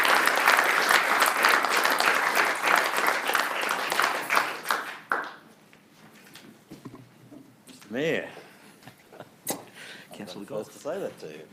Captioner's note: applause